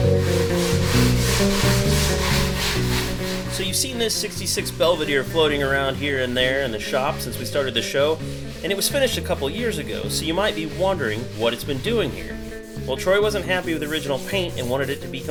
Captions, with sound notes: (chill jazzy music) (sandpaper scraping) - So you've seen this '66 Belvedere floating around here and there in the shop since we started the show. And it was finished a couple years ago,